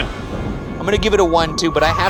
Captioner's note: thunder rumbling